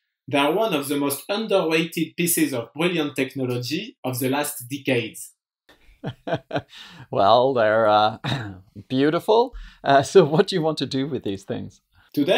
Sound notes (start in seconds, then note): 5.9 laughs